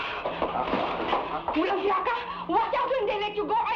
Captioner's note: woman speaking in Tagalog